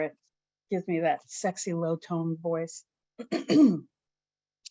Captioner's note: clears throat